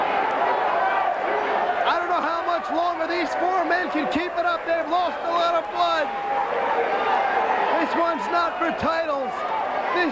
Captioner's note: crowd chatter